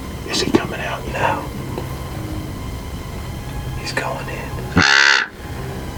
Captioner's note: whispering